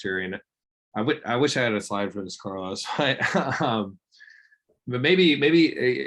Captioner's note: laughs